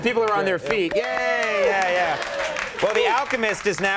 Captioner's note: both clapping